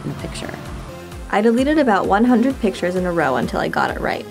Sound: voiceover

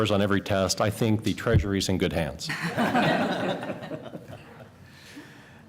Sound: laughter

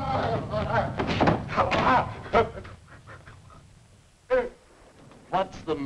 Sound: Andy screams; Andy stammering; thunder rumbling

